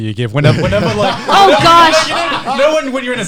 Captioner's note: laughs